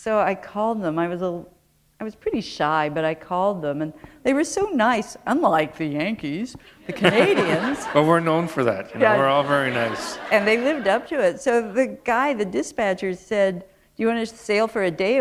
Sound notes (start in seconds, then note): 6.8 laughter